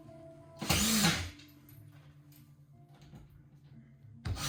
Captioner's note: drill sounds